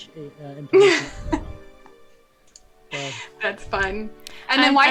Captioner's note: laughs